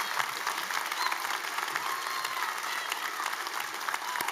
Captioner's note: cheering